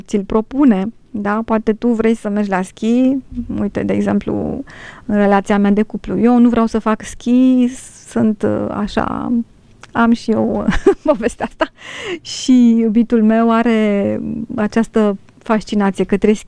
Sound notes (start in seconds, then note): 13.9 laughter